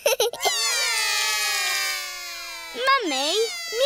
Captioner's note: laughs; all cry